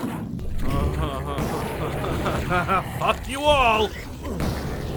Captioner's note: bitterly laughs